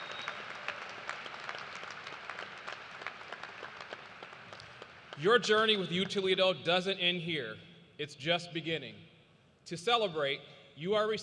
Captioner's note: cheers and applause